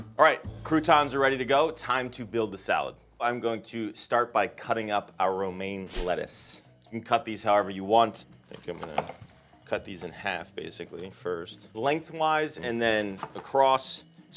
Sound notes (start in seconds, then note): none